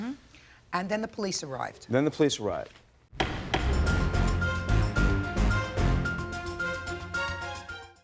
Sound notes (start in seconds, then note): 3.2 gavel pounding; 3.2 dramatic music